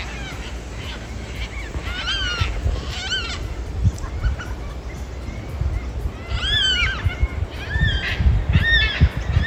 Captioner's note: birds Yelling